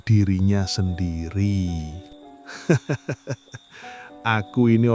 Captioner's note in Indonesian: tertawa